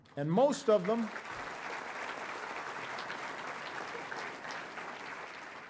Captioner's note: audience applauding